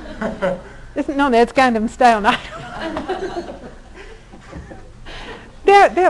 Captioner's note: all laughing; all laughing